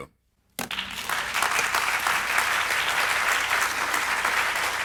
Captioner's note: audience applauds